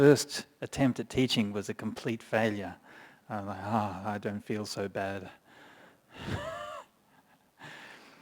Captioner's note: chuckles